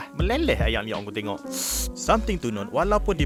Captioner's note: drool slurping noise